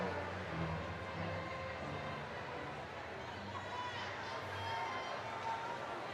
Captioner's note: indistinct crowd chattering